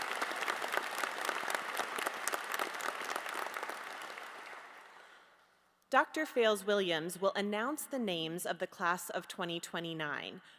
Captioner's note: applause